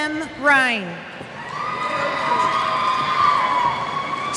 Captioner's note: cheers